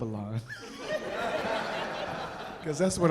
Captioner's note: audience laughing